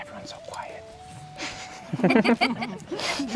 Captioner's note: chuckles